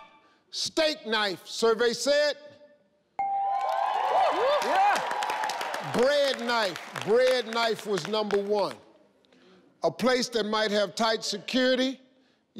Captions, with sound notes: steak knife. Survey said (chimes) (crowd cheers) Bread knife. Bread knife was number one. A place that might have tight security.